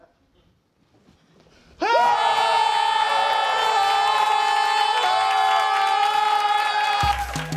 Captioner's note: both screaming